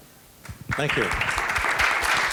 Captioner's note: applause